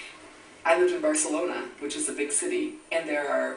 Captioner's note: voiceover